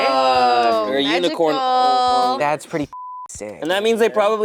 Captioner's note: beep